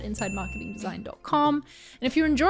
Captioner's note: ding